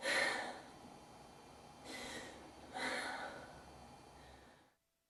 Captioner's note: sighs